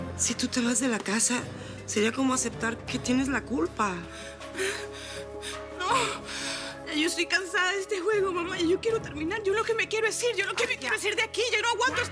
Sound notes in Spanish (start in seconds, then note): 5.4 Sollozos